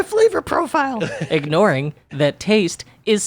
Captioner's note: laughs